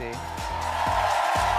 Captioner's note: audience cheering